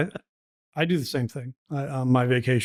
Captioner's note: laughing